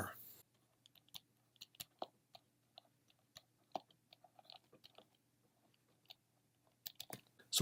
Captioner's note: typing